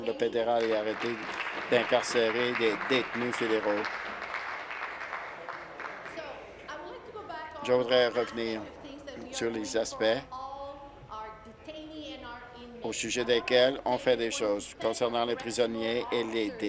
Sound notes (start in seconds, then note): 3.7 applause